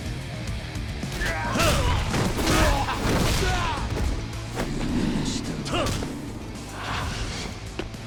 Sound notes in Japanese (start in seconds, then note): 0.7 うめき声